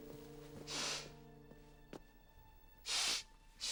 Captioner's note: sniffling